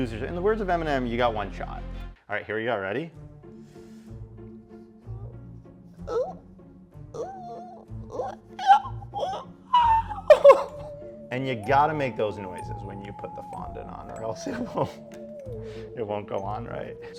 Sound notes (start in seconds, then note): 3.4 playful bouncy music; 6.5 squeaky, squeal noises